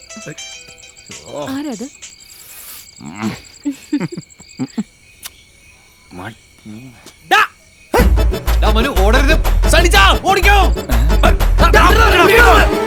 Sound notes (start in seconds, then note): 6.1 murmuring